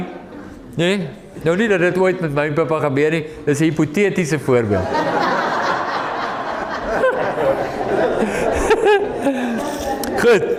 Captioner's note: audience laughing